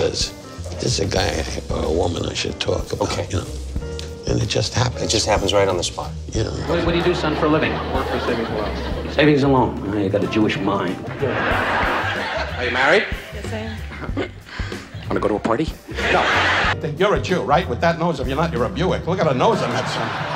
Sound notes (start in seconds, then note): 11.0 laughing; 19.6 laughing